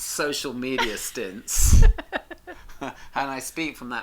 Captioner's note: both laugh